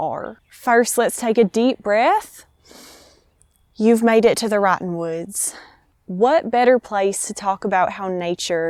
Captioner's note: breathes deeply